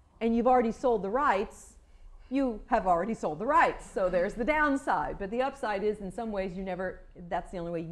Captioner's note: none